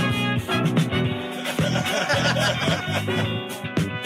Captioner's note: laughing